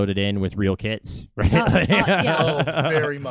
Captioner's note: laughing